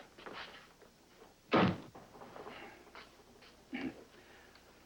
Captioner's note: door Slams